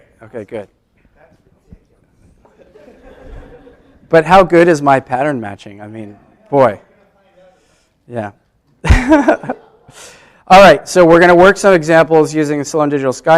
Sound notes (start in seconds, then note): 2.4 laughter